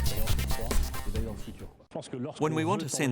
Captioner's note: speaking french